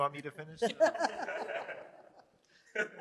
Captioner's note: laughter